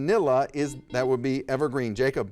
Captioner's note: buzzer dings